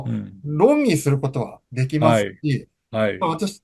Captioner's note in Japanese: 咳払い